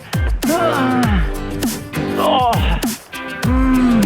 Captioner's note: man grunts